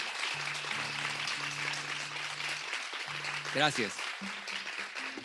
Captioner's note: audience applauding